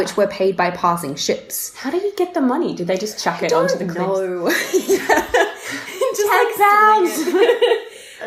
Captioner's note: laughter